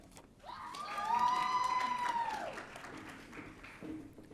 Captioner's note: audience cheering